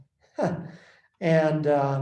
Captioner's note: laughs